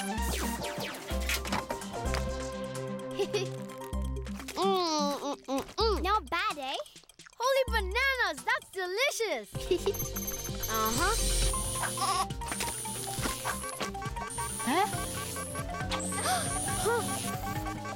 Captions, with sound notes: (MB chuckles) Mm! Mm-mm-mm! - Not bad, huh? - Holy bananas! That's delicious! (chuckling) (beeping) Uh-huh. (buzzing) (bleating) (frantic beeping) Huh? (gasping)